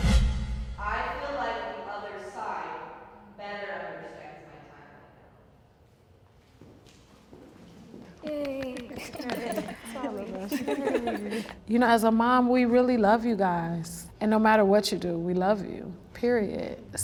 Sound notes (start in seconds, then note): 8.2 claps; 10.8 laughs